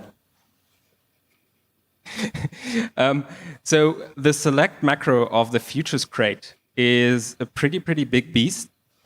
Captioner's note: laughing